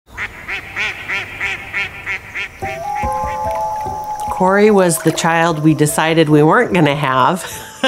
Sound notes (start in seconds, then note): 0.2 geese honking; 2.6 gentle music